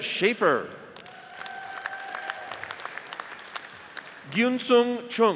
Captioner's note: audience cheers and applauds